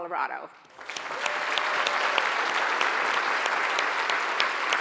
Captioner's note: audience applauds